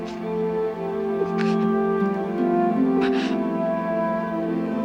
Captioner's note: crying